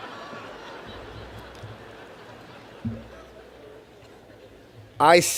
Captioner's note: laughter